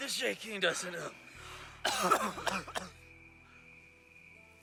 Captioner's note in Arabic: السعال